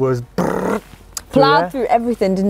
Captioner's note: imitates Engine Noise